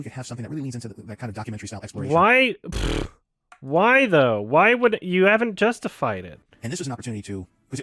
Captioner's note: buzzes lips